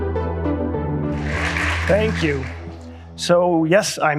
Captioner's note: intro jingle; applause